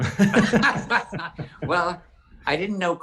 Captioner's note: both laugh